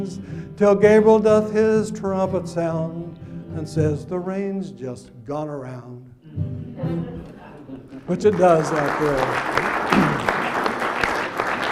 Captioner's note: laughs and applause